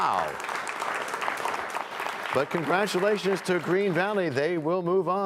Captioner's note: applause